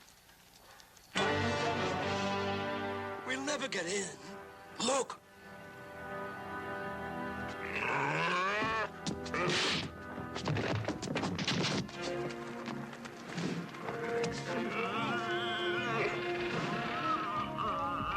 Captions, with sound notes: (dramatic music) We'll never get in. Look! (dramatic music) (Qahhar grunting) (fist thudding) (dramatic music) (Qahhar grunting)